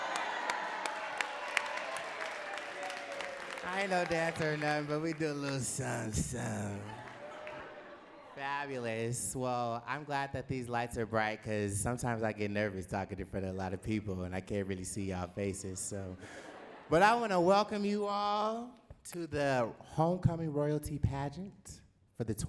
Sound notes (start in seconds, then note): 0.0 audience cheering and clapping; 7.8 laughing